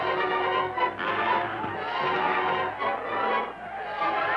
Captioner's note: spectators laughing; bull grunting; crowd shouting